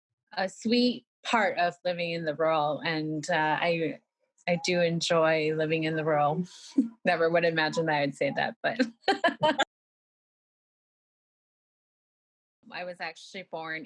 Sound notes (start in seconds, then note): 8.8 laughter